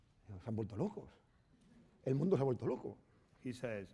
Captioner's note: speaking spanish